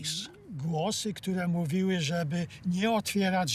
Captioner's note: in Polish